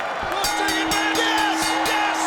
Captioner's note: bell rings